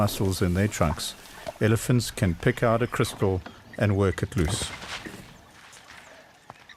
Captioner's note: animals calling